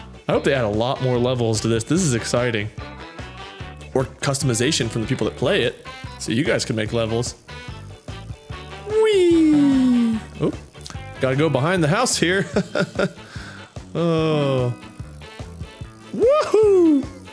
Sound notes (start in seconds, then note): 12.4 fake laughing